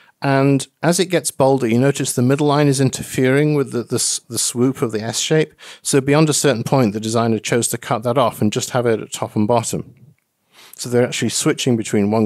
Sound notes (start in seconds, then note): none